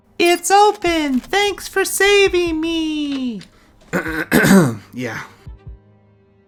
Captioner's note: clears Throat